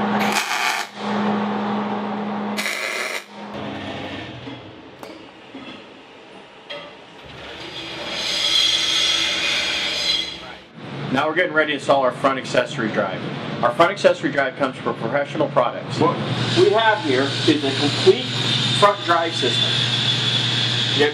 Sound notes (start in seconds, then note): 0.2 buzzing; 7.2 metal grinding